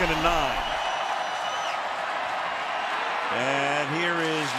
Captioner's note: crowd cheering